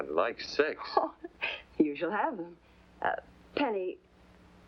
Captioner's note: chuckles